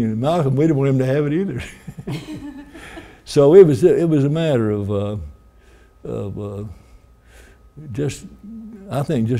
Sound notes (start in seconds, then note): 1.5 chuckling